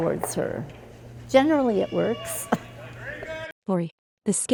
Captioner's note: chuckles